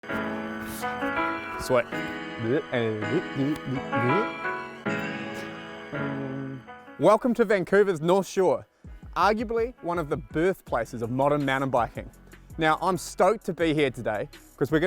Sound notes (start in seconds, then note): 0.0 mellow music; 2.6 vocal reversing noises